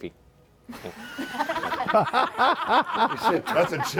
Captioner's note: laughter